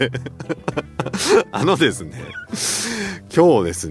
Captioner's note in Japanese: 笑い